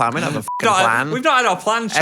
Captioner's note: beeps